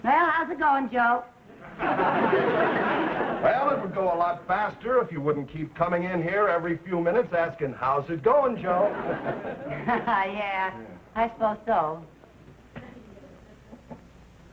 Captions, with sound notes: Well, how's it going, Joe? (audience laughing) - Well, it would go a lot faster if you wouldn't keep coming in here every few minutes asking, "How's it going, Joe?" - (laughing) Yeah, I suppose so.